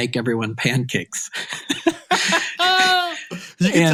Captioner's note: laughing